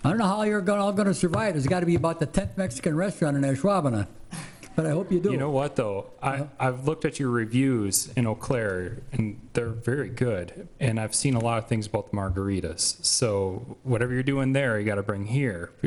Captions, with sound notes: I don't know how you're all gonna survive, it's gotta be about the tenth Mexican restaurant in Ashwaubenon. (laughing) But I hope you do. You know what though, I've looked at your reviews in Eau Claire, and they're very good, and I've seen a lot of things about the margaritas. So whatever you're doing there, you gotta bring here,